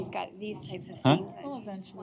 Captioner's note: indistinct chatter